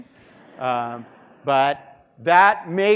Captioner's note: students laughing